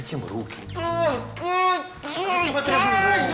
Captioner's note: screams